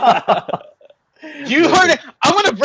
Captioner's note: laughing